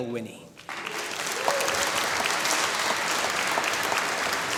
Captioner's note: applause